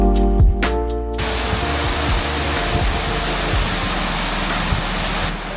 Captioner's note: water falling